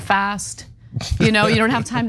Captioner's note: laugh